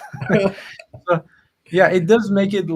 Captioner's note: laughs